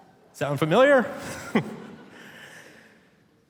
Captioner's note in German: Publikum lacht; lacht